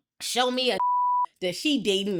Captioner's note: beep